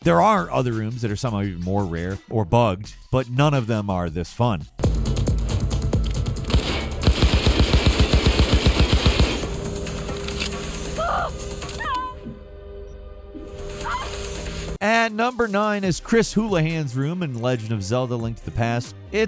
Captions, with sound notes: There are other rooms that are somehow even more rare or bugged, but none of them are this fun. (gun shots) At number nine is Chris Houlihan's room in Legend of Zelda Link to the Past.